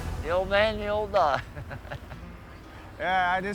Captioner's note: chuckles